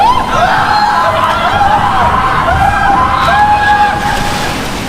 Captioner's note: screaming